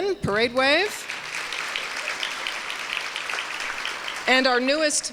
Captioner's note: applause